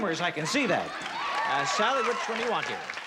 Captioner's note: cheering